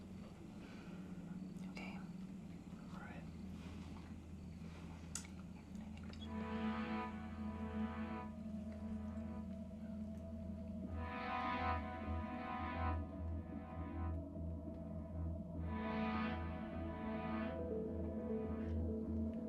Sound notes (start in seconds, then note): 7.1 Claire whispering; 11.3 tense music